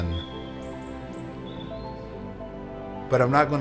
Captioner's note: birds chirping